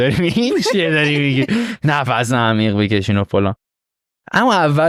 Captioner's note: laughs